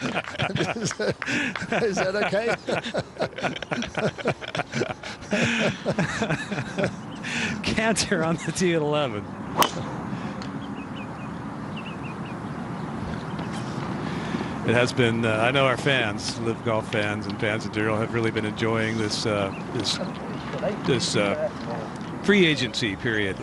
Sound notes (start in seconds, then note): 4.9 laughter